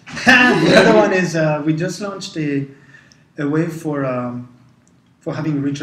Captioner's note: laugh